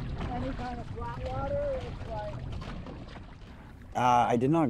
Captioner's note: water splashing